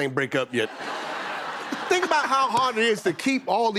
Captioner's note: laughter